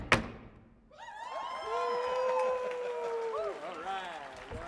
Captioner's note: audience cheers